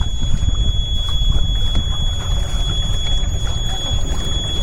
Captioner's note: engine giving a different warning sign than usual